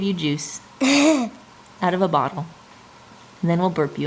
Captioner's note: laughs